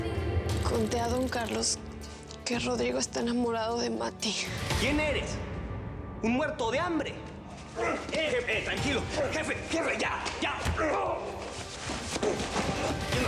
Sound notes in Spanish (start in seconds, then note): 9.0 golpes; 13.0 habla entre dientes